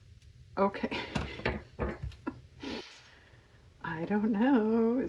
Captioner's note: laughs